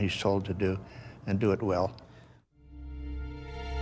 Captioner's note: voiceover